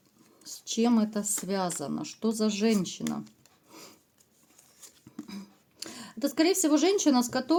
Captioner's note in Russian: фыркает; откашливается